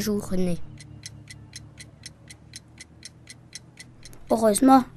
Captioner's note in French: tic tac de pendule